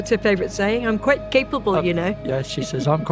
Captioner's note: laughs